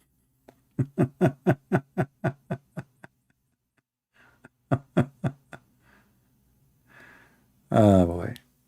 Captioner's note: Ketawa